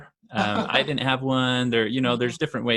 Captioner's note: laughs